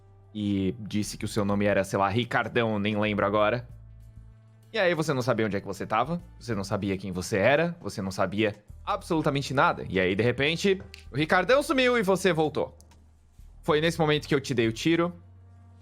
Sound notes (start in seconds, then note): 10.8 snaps